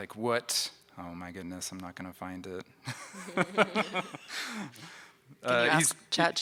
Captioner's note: laughs